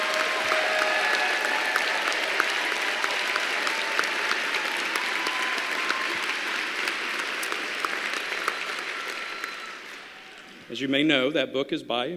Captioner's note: applause